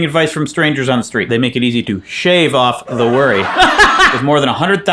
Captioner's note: laughing